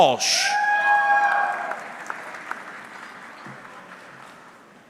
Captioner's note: audience cheering